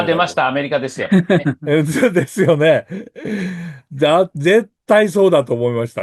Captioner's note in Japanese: 笑い